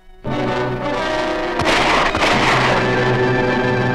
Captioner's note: gun shots ring out!